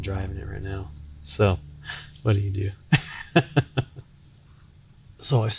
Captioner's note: laughing